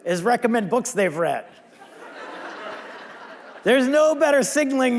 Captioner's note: audience laughing